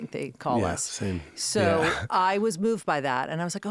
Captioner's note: laughing